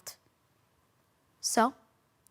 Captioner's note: silent